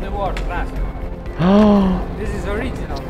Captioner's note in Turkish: iç geçirir